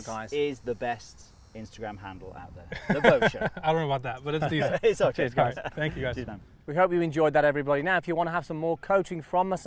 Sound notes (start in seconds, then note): 2.7 laughing